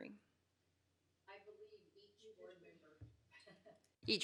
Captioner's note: laughs